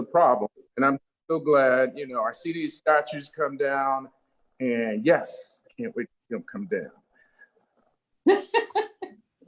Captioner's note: laughter